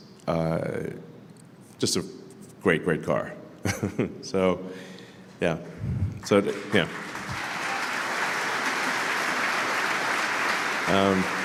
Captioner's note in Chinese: Applause; 掌声